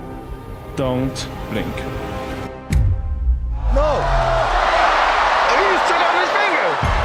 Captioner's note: cheering